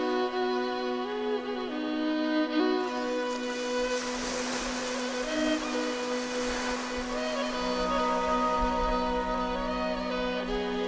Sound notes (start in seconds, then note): 2.6 ocean waves susurrating